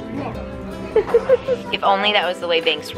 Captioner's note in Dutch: Moeder lacht